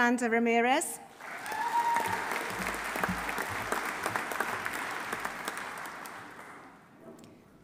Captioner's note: audience applauding; audience cheering